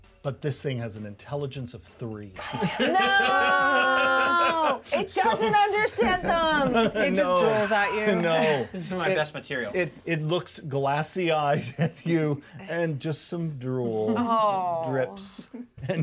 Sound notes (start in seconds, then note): 2.4 speaker laughs; 11.5 chuckles